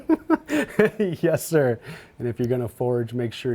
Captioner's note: laughs